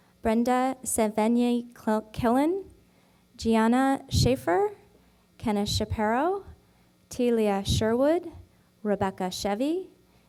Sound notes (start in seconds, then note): none